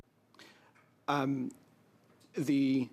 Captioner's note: speaking in French